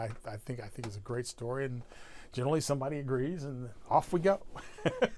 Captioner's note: laughter